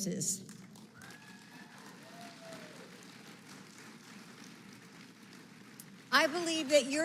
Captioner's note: applause